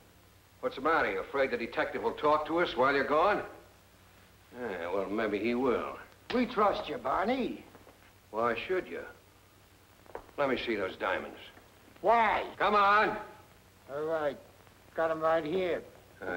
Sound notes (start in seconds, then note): none